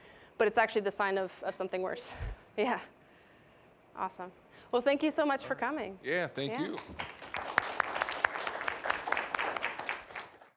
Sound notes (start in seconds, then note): 6.6 applause